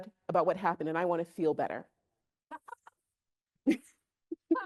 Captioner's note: chuckles